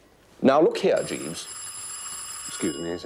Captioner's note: door bell